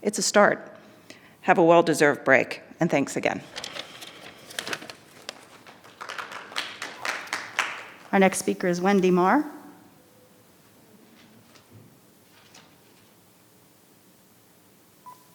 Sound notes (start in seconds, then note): 5.2 audience clap